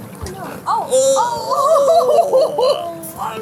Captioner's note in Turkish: ohhhh!... gülüyor